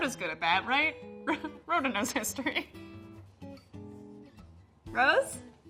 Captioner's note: laughs